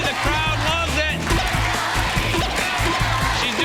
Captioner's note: crowd chanting “ ”